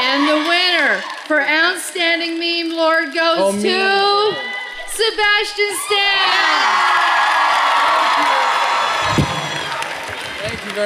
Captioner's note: cheering